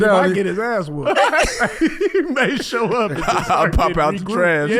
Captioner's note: everyone laughing